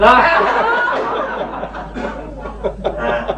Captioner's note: laughter